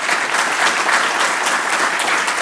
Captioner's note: applause